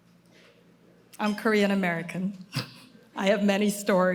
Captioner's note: laughs